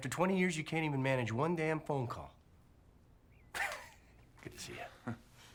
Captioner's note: laughs